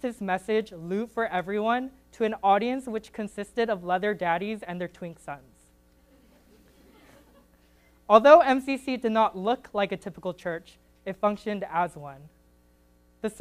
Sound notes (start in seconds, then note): 6.1 audience giggles